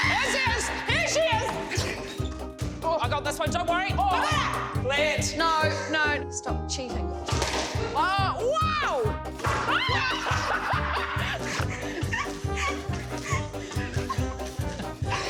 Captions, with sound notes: - There she is, here she is. - I got this one don't worry. - No, stop cheating. (laughs loudly)